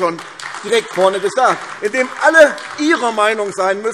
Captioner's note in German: Beifall AfD